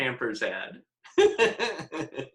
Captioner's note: laughing